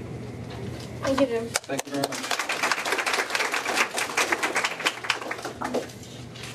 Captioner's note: applause